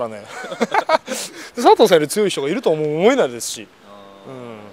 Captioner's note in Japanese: 苦笑